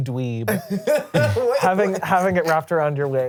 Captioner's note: laughs